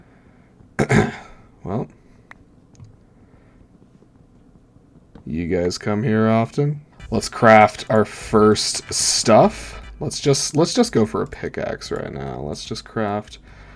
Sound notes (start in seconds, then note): 0.8 clears throat